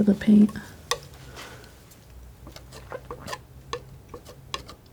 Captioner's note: tapping